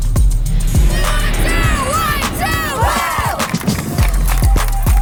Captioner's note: cheering